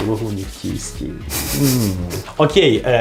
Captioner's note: laughs